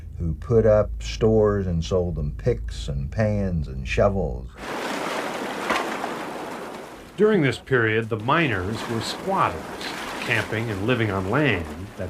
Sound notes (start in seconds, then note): 4.6 water whooshing